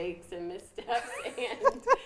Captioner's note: laughs